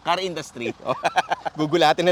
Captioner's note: laughs